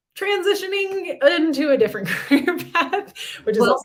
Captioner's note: laughter